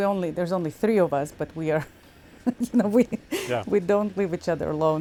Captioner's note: laughing